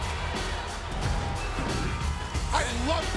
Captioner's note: screen whooshes